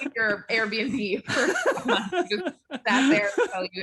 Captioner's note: group laughing